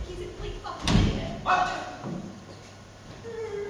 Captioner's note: whimpers in fear